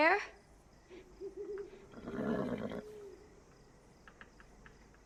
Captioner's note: owl hooting